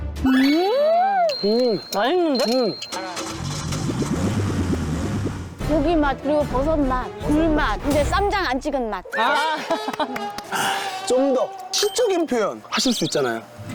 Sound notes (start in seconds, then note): 1.4 impressed